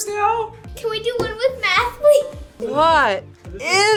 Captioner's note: laughs